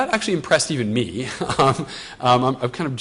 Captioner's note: chuckles